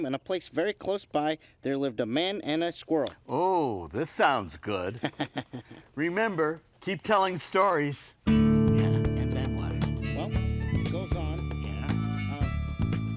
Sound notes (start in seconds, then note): 4.8 laughing; 8.2 upbeat music